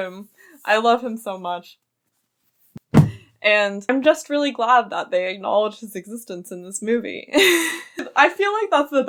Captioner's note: thud